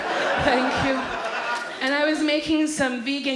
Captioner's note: audience laughs